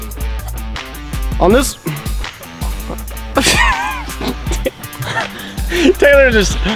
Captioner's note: haha